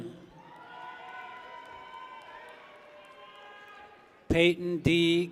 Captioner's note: people cheer